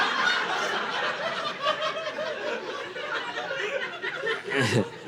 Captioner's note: audience laughing